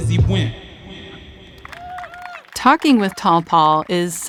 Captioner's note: applause